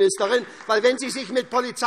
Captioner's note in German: Beifall SPD